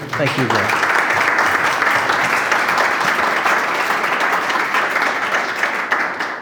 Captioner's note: applause